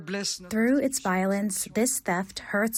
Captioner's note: through translator